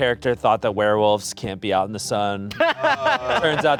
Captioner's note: laughing